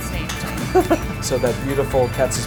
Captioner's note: laughs